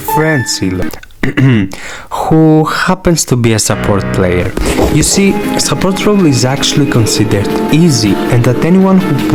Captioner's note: cough